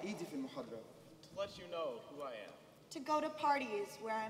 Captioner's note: speaking native language